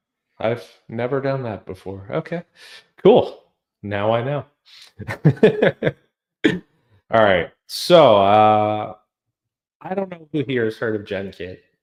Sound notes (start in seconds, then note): 4.8 laughs